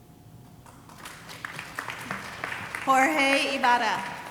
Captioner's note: audience applauding